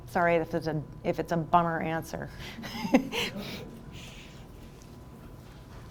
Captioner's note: chuckles